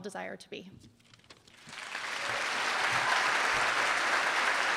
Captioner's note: applause